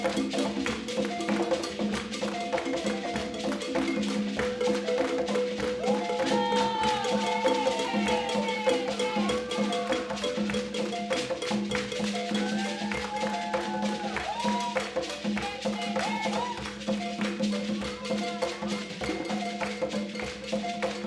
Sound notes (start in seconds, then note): 2.6 upbeat balafon music continues; 5.6 people cheering; 16.9 upbeat balafon music continues